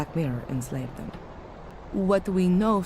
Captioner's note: none